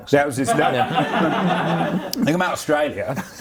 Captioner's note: laughs